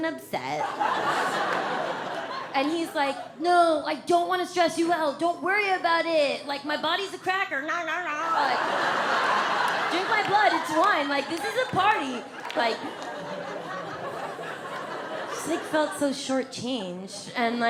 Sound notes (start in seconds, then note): 0.6 audience laughs; 7.4 audience laughs; 13.0 audience laughs